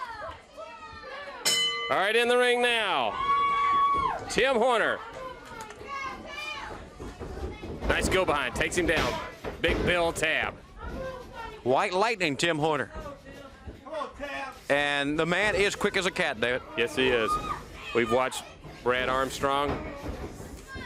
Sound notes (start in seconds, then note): 0.0 crowd chatter; 1.4 bell ringing; 13.7 crowd chatter